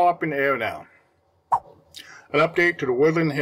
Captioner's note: swipe Sound